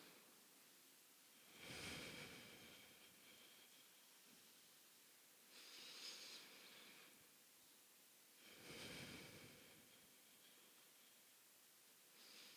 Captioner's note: breathing